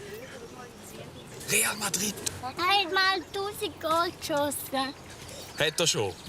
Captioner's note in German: Flüsternd